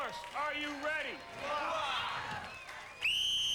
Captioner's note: cheers; whistle blows